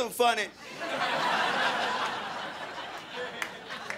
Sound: crowd laughing

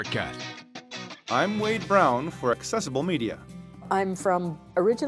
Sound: voiceover

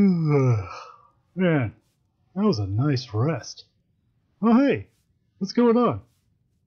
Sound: yawn

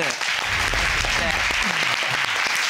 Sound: audience applauding

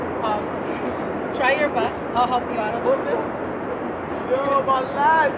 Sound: chuckles

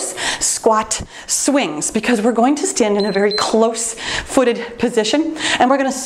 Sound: timer beeps

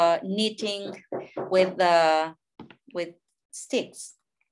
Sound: neighbor hammering

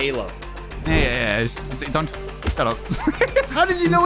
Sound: laughs

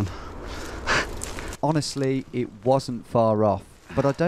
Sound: voiceover

